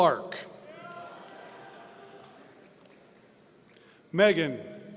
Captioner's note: audience cheering